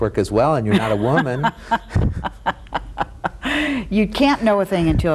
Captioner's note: both laugh